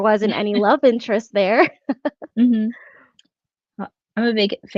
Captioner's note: laughs